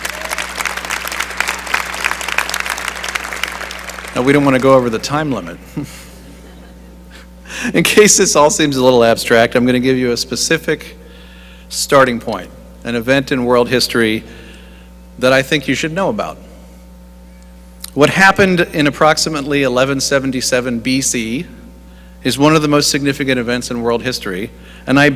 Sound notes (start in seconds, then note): 0.0 applause; 5.6 chuckling